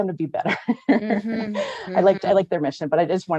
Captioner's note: laughs